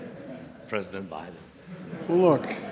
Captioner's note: laughter